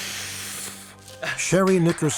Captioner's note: applause